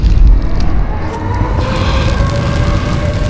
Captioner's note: sirens wail